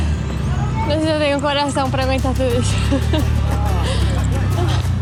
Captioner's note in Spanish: llorando y riendo al mismo tiempo